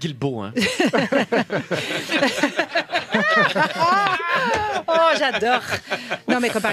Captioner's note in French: rires